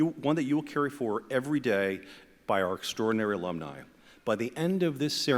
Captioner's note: none